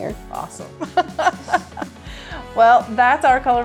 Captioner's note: laughing